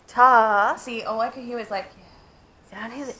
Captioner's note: whispered yeah